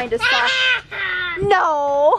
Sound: laughs

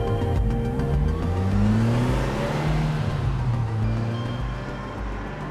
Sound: engine revving

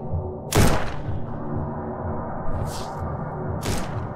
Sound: gun cocking; gun firing

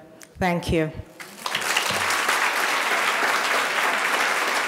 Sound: audience applauding

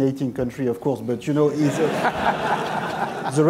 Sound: laughter

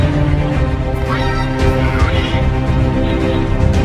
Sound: anime language

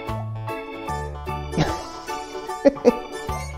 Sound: laughs

